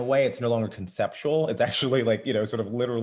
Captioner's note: laughs